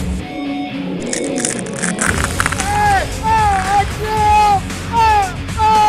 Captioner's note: shouting; bones breaking; screaming